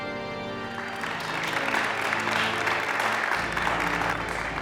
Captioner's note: congregation applauding